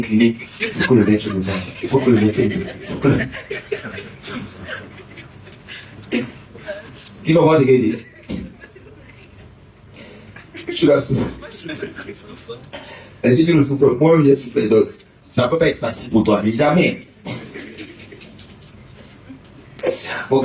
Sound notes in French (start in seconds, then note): 4.3 rires